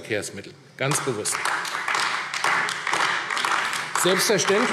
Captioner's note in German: Beifall AfD